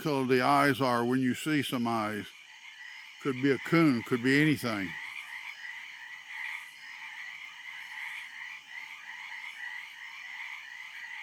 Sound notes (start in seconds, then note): 5.5 frogs ribbiting; 7.3 insects chittering